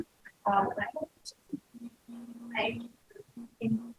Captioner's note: distorted audio